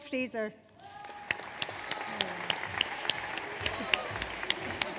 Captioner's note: audience applauds